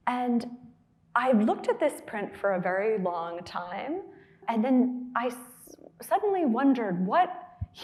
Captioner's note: none